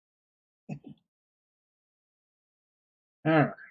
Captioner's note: chuckles